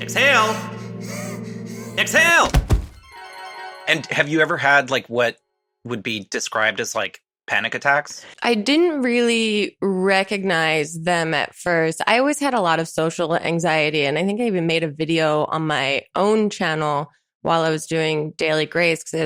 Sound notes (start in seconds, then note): 0.6 rapid breathing; 2.4 object clumps onto ground; 3.0 magical chimes ring